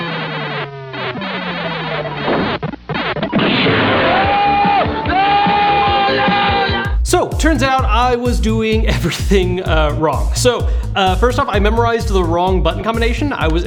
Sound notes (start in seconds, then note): 3.0 explosion